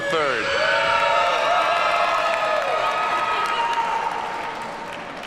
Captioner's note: audience cheers and applauds